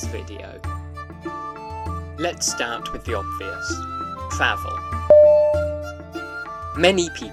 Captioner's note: ding!!!